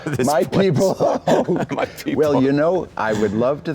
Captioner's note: laughing